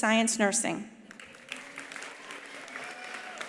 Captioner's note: attendees applauding; attendees cheering